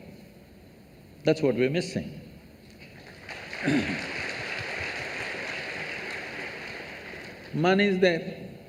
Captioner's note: applause